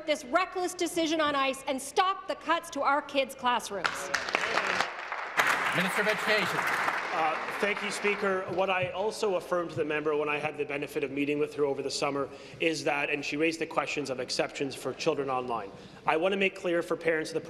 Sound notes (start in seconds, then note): 8.2 applause